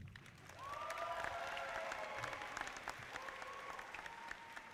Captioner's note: audience applauding